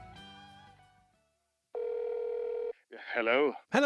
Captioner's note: telephone ringing